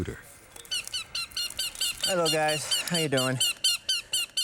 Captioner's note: birds squawking